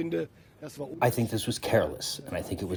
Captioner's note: through translator